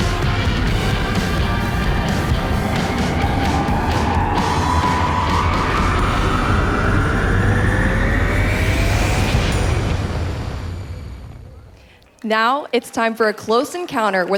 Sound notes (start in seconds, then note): 3.1 car engine roaring